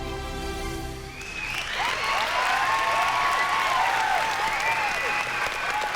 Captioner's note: cheering, whooping